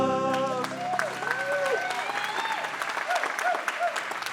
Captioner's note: applause